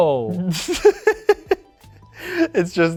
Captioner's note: laughs